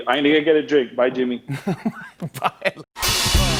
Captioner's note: laughs